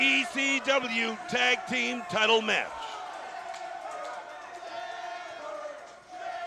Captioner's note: crowd chatter